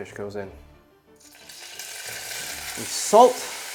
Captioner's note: pan sizzling